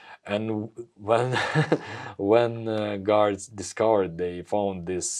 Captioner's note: laughs